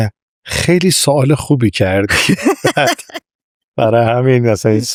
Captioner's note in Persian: خنده